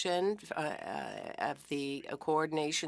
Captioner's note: speaking French